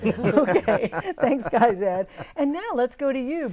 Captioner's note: laughing